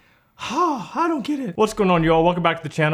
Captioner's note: dramatic exhale